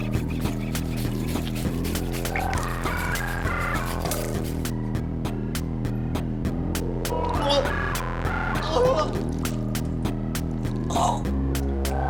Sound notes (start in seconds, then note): 6.5 vomiting